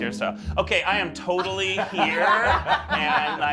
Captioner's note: laughing